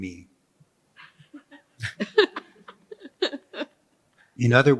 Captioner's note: laughter